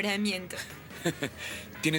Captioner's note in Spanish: Graham dá uma risadinha